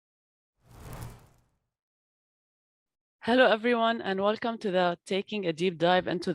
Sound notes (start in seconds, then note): 0.7 gentle whooshing